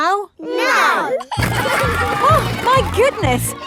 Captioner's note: giggling